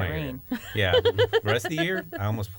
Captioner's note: laughter